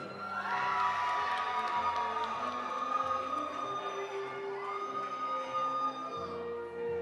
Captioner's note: audience applauding; audience cheering